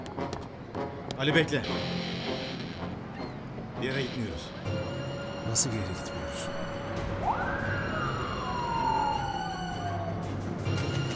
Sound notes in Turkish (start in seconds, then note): 7.2 poli̇s si̇ren sesi̇